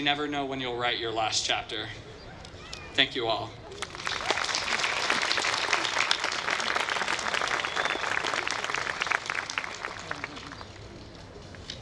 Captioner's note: applause